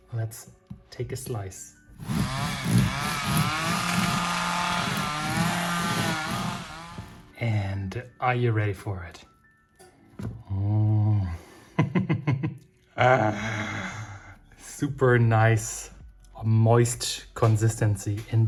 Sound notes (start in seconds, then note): 2.0 rattling sound; 12.9 laughs happily